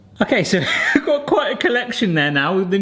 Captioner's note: laughing